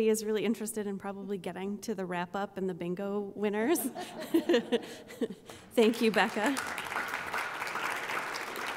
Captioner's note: applause